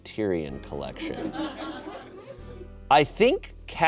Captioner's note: audience laughing